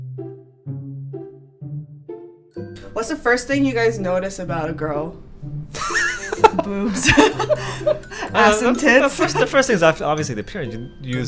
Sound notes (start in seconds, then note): 5.7 laughing